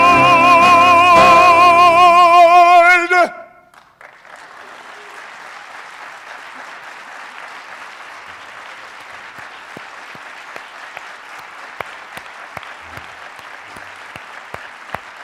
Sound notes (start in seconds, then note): 3.6 applause